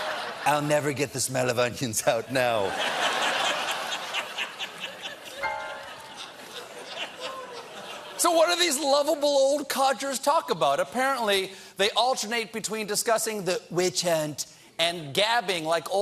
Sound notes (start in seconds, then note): 0.1 laughter; 5.4 piano riff